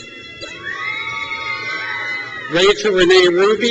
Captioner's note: crowd cheers